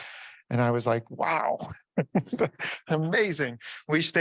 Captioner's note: chuckles